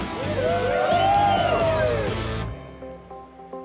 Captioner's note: all cheer